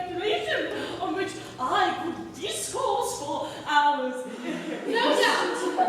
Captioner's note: ALL inhale sharply